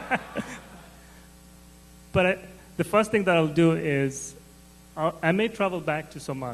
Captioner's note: laughter